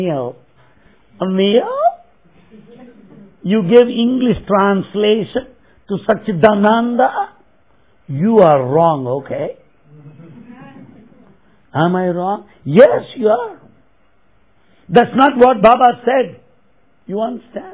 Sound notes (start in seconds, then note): 10.0 laughter